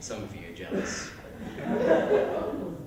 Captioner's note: laughter